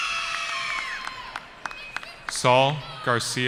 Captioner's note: cheering